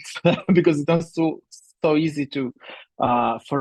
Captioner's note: laughs